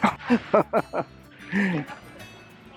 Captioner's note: laughter